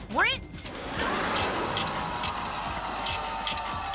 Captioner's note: scratching